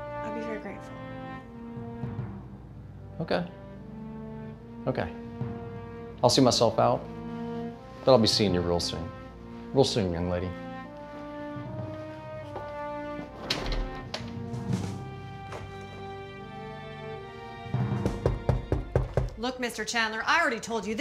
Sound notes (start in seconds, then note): 13.2 door clicks closed; 17.7 door knocking